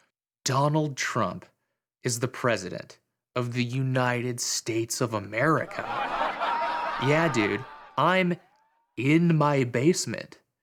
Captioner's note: laughter